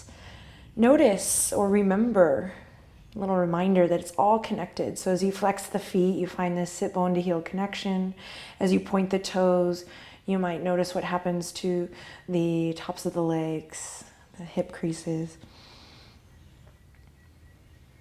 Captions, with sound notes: Notice, or remember, a little reminder that it's all connected, so as you flex the feet you find this sitbone to heel connection. As you point the toes you might notice what happens to the tops of the legs, the hip creases (deep inhale).